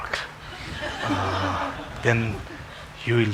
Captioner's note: congregation laughing